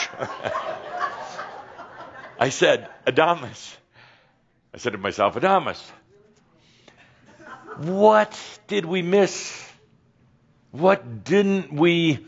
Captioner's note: some giggles